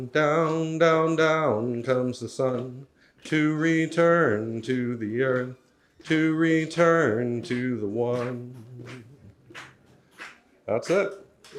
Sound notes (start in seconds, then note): 8.2 audience clapping in time